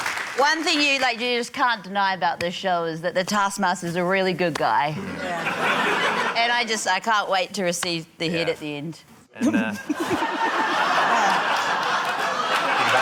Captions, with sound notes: - One thing you just can't deny about this show is that the Taskmaster's a really good guy. - Yeah. (LAUGHTER) - And I just― I can't wait to receive the head at the end. (SNICKERS) (LAUGHTER)